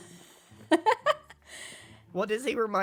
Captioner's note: laughs